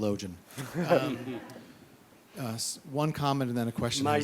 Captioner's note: laughing